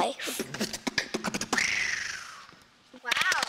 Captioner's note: beatboxing